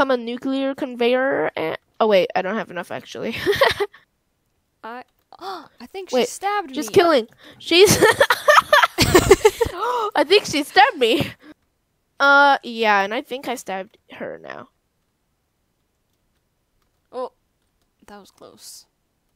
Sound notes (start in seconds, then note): 4.6 gasp; 9.6 fake gasp